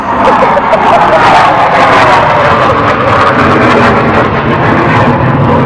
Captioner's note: second Jet Interrupts